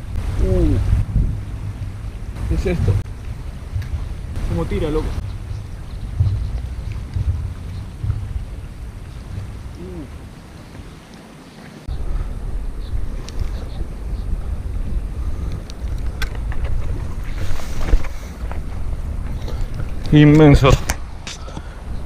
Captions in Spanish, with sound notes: Uhhh! Qué es esto! Cómo tira loco! (Sonido del pescado coleteando en el agua) Inmenso!